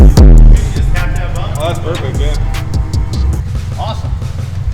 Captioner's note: amp volume drops; bass vibrating music